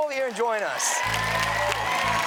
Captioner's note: audience cheers and applauds